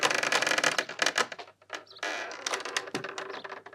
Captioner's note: creak